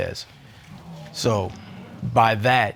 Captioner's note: audience exclaiming